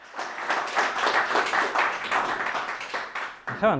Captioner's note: applause